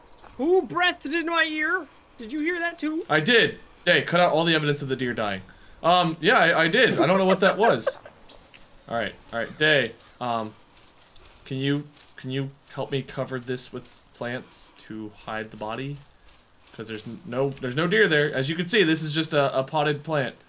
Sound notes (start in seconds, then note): 6.6 laughs